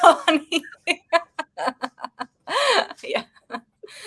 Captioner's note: woman laughing